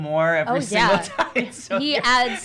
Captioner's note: laughs